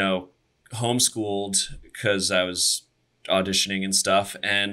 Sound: none

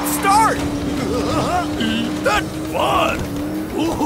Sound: giggling

